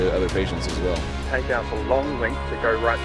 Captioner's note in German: Voiceover